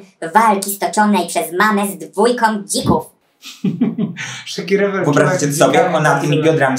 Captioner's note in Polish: śmiech